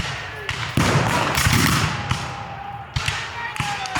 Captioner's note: guns fire